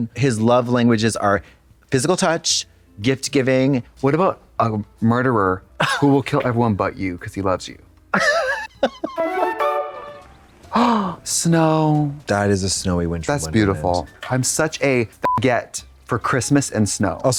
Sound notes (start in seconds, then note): 8.1 Katya chuckles; 9.4 bright chime; 10.7 gasps; 15.2 beep